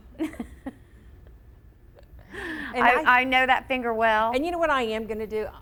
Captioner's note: laughs